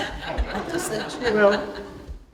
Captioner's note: laughter